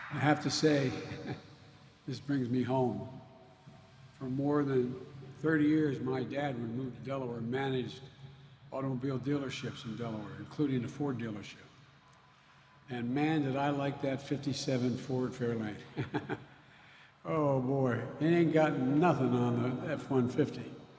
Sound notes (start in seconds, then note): 16.0 laughs